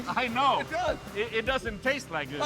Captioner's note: laughing